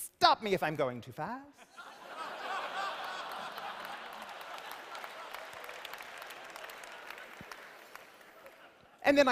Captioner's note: laughter